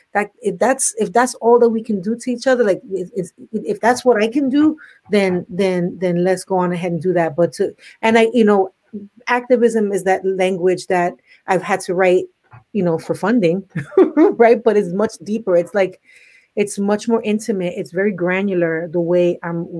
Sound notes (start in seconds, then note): 13.5 laughs